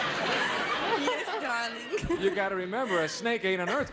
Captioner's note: laughs